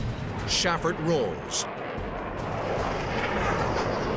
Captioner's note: jet engine noises